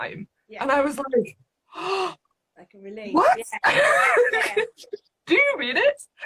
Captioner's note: laughing